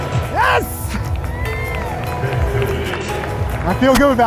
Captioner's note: crowd cheers